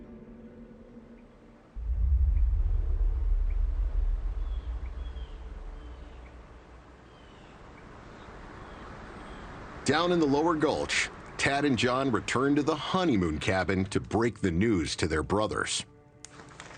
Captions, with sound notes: [BIRDS CHIRPING] Down in the lower gulch, Tad and John return to the honeymoon cabin to break the news to their brothers.